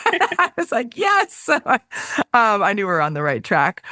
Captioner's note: laughs